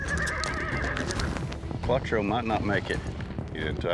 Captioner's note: horse neighing